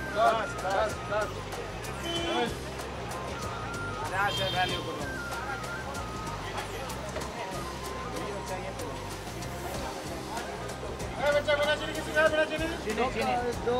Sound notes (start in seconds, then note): 0.4 speaking foreign language; 1.8 horns blaring; 4.6 speaking foreign language